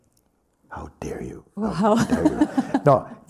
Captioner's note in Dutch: gelach